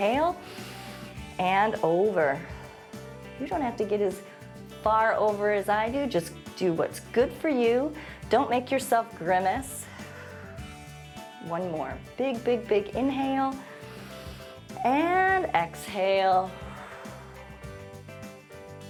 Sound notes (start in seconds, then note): 0.4 exhales; 0.4 inhales; 9.8 exhales; 13.7 inhales; 16.8 exhales